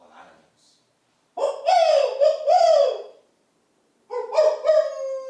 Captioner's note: sound of Crows